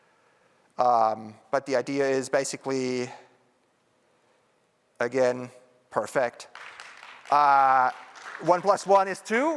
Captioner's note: applause